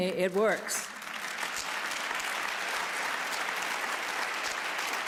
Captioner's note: applause